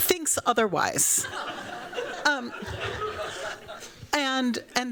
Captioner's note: laughter